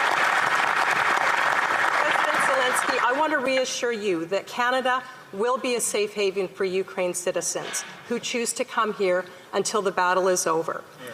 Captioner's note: applause